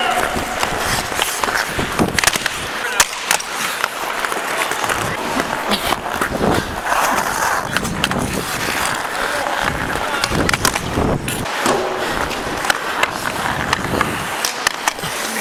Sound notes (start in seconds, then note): 0.0 referee whistling; 2.1 skates crackling; 2.8 sticks clashing